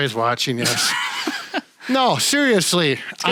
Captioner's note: laughs